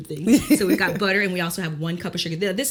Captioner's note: Kellita laughs